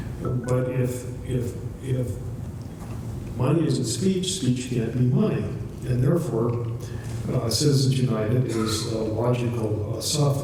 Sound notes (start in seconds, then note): 0.2 scale of three chimes; 1.6 stutters